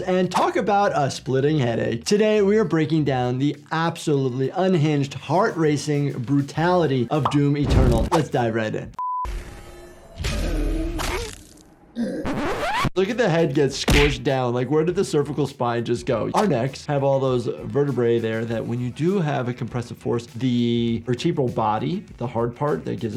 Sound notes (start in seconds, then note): 10.6 flesh squelching; 11.9 monster groans